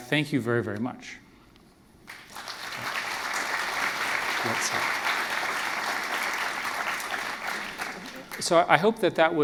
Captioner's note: applause